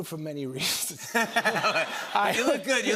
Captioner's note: laughter